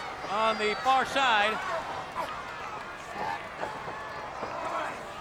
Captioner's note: crowd yelling